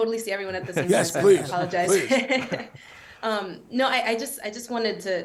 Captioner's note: laughs